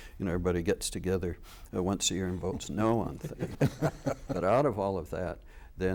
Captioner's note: laughter